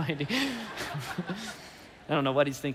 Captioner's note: congregation laughing